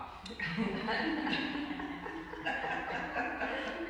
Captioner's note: laughing